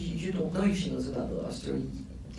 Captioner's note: none